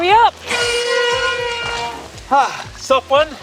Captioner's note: bike braking